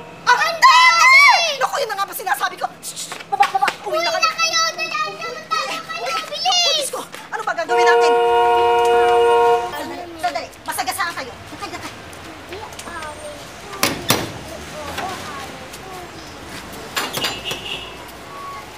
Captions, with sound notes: -Daddy! -Your daddy! Oh, I knew this would happen! Psst, get down! Down! -Go home, go home, go home! -Go home! Hurry, hide! -Hurry! -Oh, my God. -What do we do? -[car horn honking] Hold on, hold on! You'll get run over! Step aside. -[kids chattering] -[gate clanging]